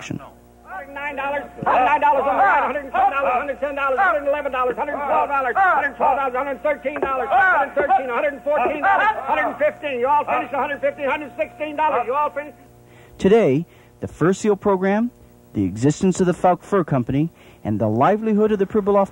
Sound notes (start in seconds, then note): 0.9 auctioneer shouting numbers